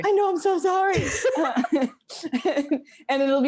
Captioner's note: laughing